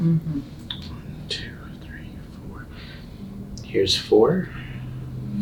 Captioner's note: whispers